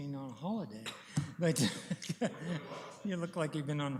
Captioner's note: laughs